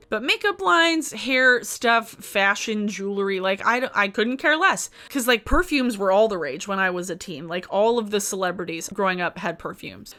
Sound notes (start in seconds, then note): none